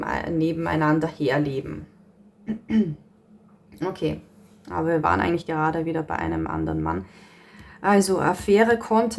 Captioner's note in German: räuspern